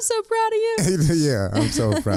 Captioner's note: both laughing